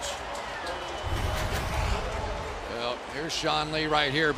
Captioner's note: pa announcement